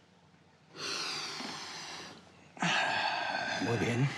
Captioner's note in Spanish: inhala y exhala fuerte